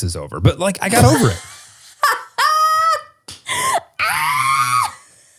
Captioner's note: laughs